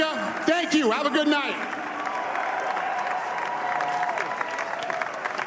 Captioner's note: cheers and applause